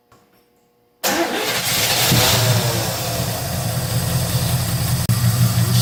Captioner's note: engine starts and idles